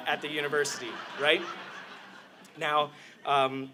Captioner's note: laughter